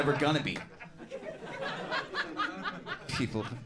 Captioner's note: crowd laughs